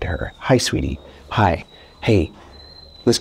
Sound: dog whimpering

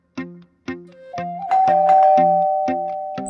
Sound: doorbell ringing

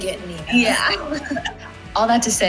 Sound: laughs

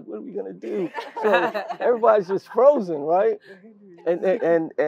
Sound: laugh

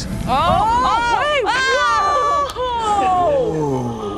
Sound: group gasps

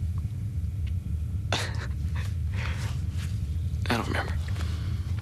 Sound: laughs

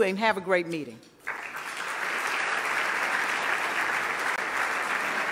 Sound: loud clapping

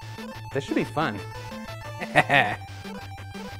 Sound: laughs

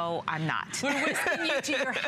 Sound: laughter

